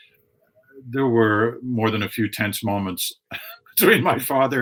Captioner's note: chuckling